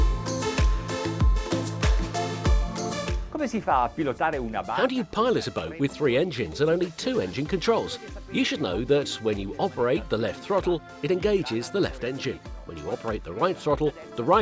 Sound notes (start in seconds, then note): 3.5 speaking foreign language